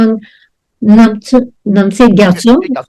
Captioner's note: speaking foreign language